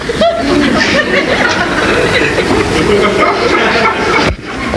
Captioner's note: audience laughs